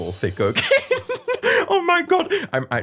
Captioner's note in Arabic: يضحك في أسف